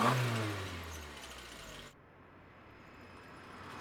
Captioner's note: engine turns over; engine revs; car rattling